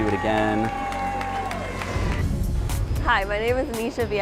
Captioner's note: audience applause